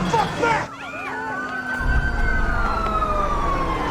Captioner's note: sirens blaring